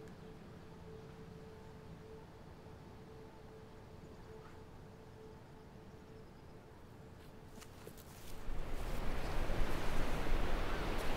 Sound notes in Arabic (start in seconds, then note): 6.4 تلاطم الأمواج